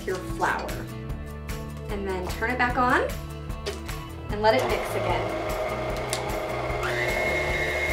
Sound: mixer whirring

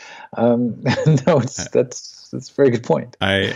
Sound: laughs

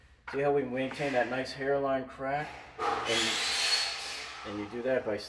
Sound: drill whirs

